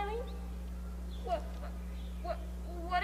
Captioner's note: stammers